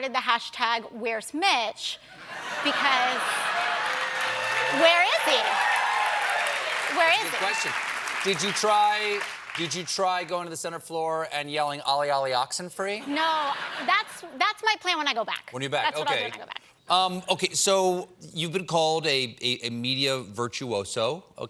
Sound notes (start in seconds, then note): 8.4 applause